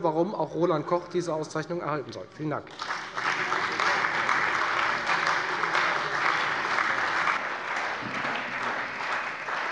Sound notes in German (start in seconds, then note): 2.6 Beifall bei der FDP und der CDU